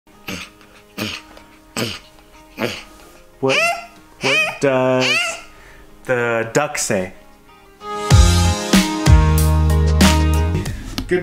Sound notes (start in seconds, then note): 0.2 grunting; 4.2 squealing